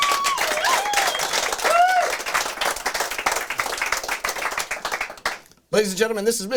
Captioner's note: crowd cheers